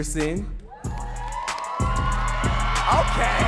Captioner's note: audience cheering and clapping